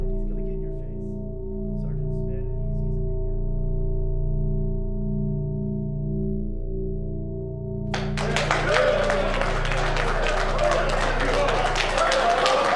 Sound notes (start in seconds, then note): 2.8 dramatic music; 7.9 men clapping and chattering